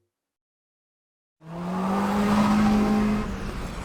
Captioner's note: engine revving